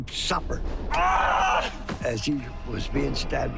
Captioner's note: screaming